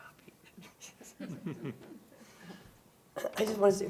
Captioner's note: chuckles